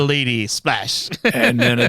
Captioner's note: laughing